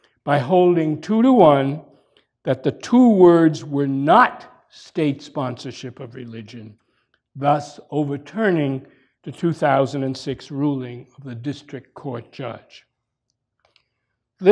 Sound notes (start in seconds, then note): none